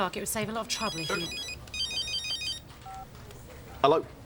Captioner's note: mobile phone rings